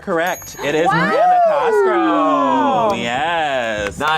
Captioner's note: group cheers